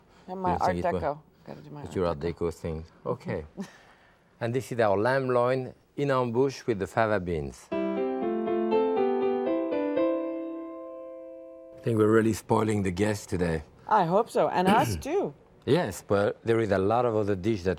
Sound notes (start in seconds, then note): 5.5 speaking foreign language; 7.7 bright piano